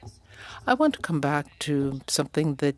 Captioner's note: speaking French